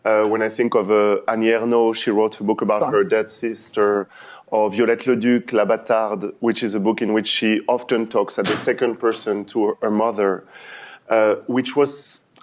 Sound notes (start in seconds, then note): 4.3 french